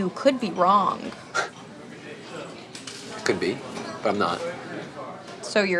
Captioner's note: scoffs